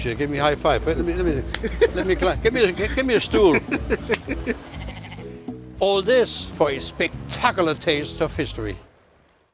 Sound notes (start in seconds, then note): 1.4 claps hands; 2.5 laughs; 4.4 goat bleats